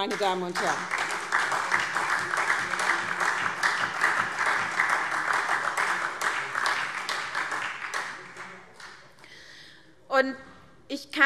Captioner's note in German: Beifall SPD